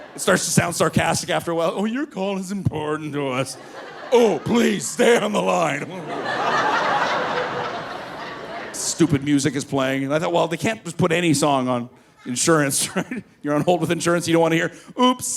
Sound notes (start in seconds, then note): 0.0 laughing; 6.1 laughs; 6.6 audience laughing